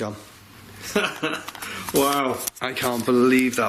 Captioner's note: chuckles